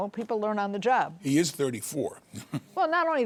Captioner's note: chuckles